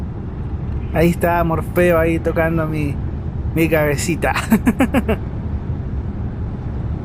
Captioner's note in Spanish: risas